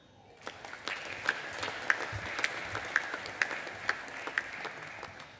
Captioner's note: audience applauding